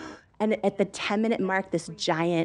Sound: gasps

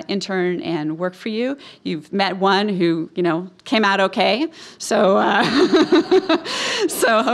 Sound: laughing

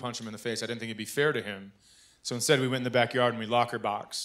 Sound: none

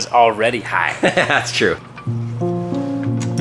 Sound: laughing; somber piano music

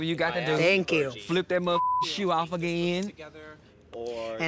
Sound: beep

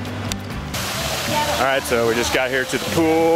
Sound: splashing

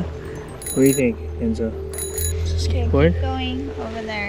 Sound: bell rings

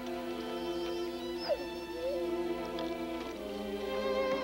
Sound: Shep whining

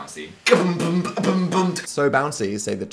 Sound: beatboxing

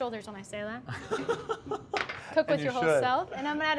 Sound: laughs

